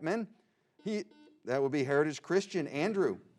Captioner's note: buzzing